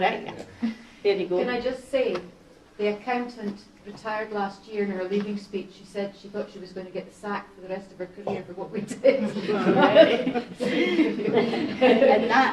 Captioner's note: laughter